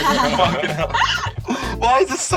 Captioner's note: laughs